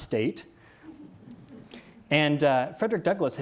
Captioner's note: audience laughs